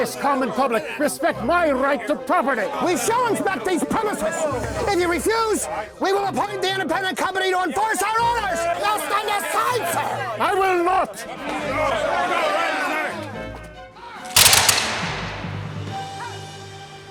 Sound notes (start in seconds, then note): 11.4 men yelling